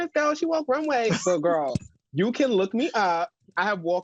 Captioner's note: chuckles